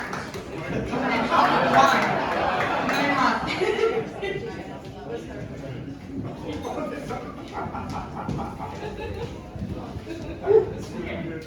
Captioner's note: giggle